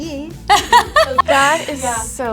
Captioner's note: laughs